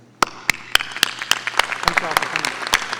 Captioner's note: audience applauding